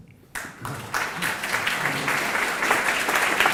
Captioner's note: applause